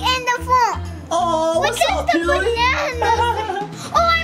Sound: laughs

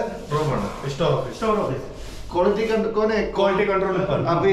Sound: conversation in Hindi

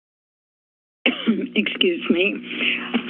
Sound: coughs

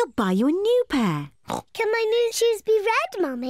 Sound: oinks

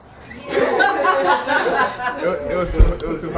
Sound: laughing

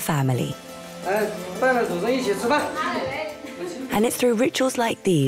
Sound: speaking Chinese

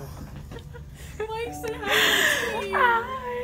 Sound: laughing; speaks excitedly

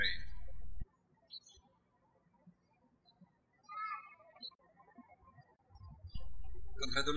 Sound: birds chirping

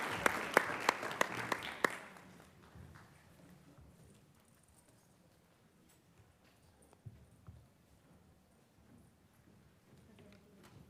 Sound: applause

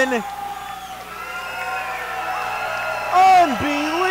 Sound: audience cheering

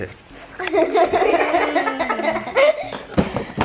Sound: laughter

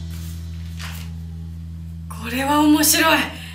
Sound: speaking foreign language

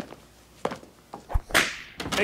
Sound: whip

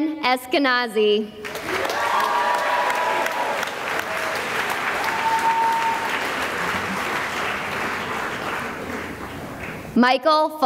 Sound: cheering and applause

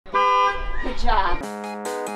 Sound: horn Honks; upbeat Music

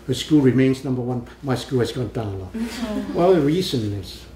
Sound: laughs

